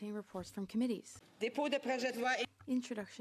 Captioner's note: speaking French